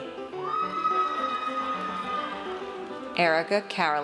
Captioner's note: audience cheers